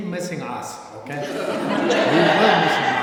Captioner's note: laughter